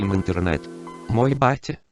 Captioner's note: Windows 95 Startup